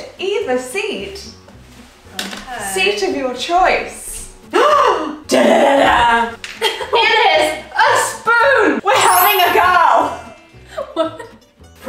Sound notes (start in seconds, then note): 4.5 gasping; 9.0 chimes tinkling; 10.6 chuckling